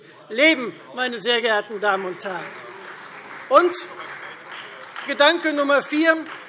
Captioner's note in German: Beifall Freie Demokraten und SPD